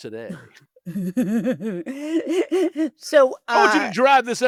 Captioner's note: laughing